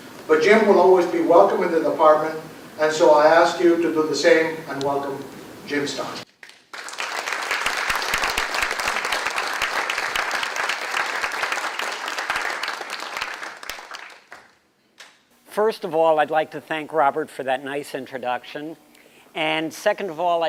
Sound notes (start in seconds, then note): 6.3 applause